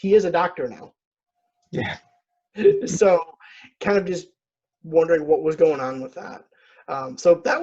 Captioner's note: laughs